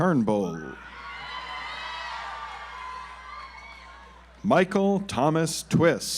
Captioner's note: audience applauds